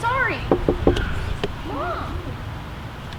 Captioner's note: knocking on glass